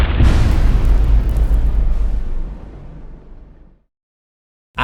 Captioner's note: impact